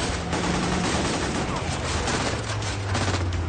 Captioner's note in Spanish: Disparos